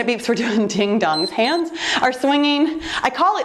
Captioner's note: timer beeps